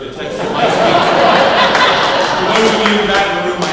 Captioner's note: laughing